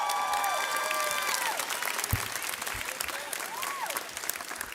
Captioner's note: audience cheers